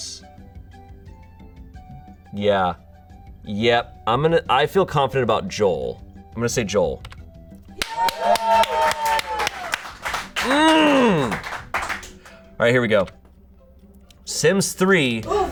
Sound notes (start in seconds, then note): 7.8 audience cheering; 10.5 audience applauding